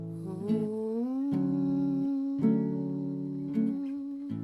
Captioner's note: vocalizing